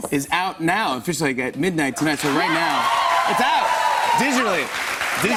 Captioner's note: cheers and applause